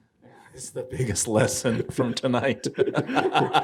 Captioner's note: all laughing; laughing